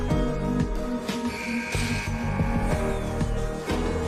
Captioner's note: buzzer